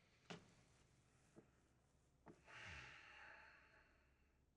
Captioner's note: inhales, exhales deeply